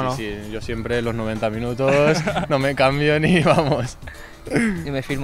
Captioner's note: laughs